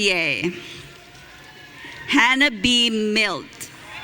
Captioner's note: audience cheering